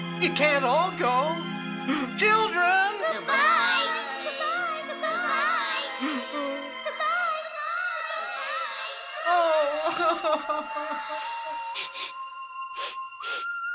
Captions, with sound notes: You can't all go. Children! Good-bye. Good-bye. Good-bye. Good-bye. Good-bye. Oh. [SNIFF SNIFF]